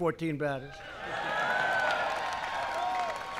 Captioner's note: applause